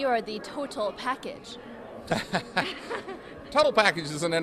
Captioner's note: both laughing